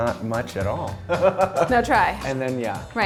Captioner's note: laughs